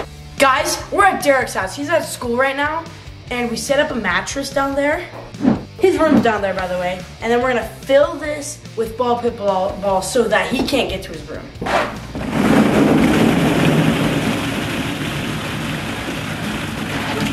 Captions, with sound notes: Guys, we're at Derek's house. He's at school right now and we set up a mattress down there, his room's down there, by the way, and then we're gonna fill this with ball pit balls so that he can't get to his room. (balls crashing)